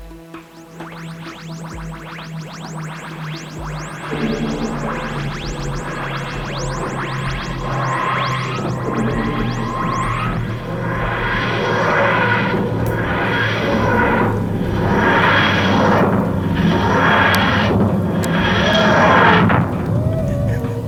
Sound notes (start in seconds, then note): 0.3 The TARDIS materializing; 4.3 The cloister bell sounds